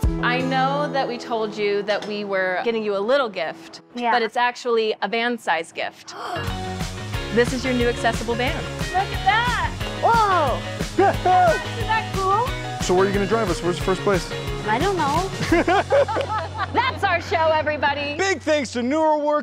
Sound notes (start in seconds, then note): 6.2 gasp; 11.0 laughs; 15.4 laughing